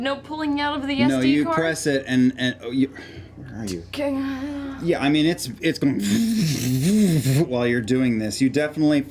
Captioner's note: whirring sound